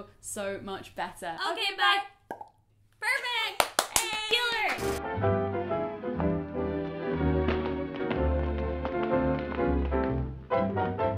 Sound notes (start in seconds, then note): 2.2 pop; 3.5 clapping